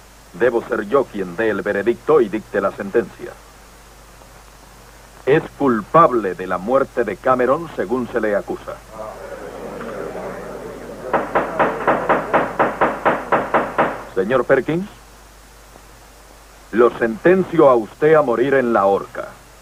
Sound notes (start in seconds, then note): 8.8 gallery murmuring; 11.3 gavel pounding